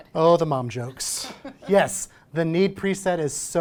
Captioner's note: chuckles